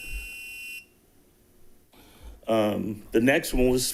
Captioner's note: tone beeps